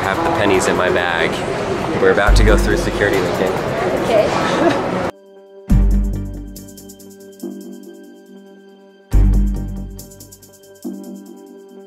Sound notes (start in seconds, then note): 4.1 laughs; 4.2 slow mysterious music